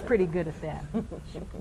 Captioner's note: laughter